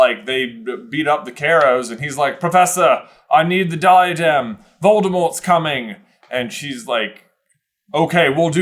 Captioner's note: accented